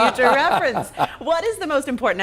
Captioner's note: laughing